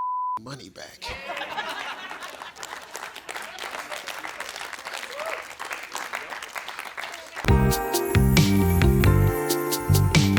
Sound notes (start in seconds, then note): 1.0 audience laughs and cheers; 7.4 upbeat music